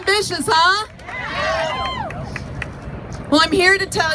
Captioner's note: crowd cheers; crowd; cheers